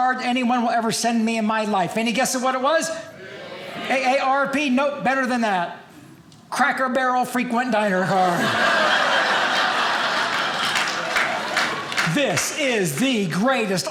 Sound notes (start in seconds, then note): 8.1 audience laughing